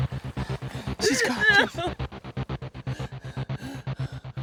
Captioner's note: crying